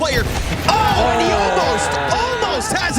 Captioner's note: players exclaiming